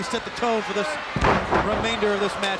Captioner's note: body slamming